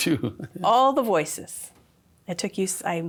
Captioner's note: laughs